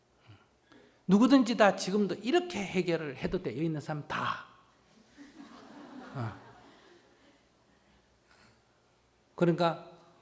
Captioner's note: audience Laughter